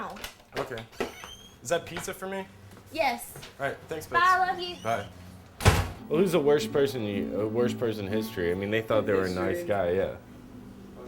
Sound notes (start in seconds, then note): 5.5 door closes